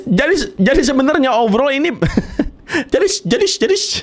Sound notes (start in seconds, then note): 2.0 chuckling